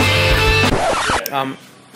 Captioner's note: record scratch